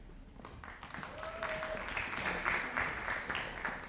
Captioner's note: audience applauding